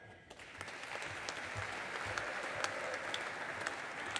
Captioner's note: audience applauding